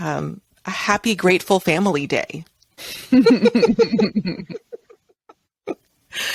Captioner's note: both chuckling